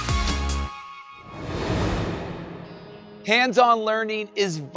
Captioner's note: air whooshing